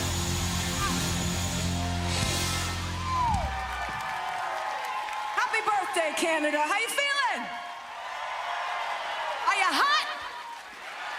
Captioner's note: applause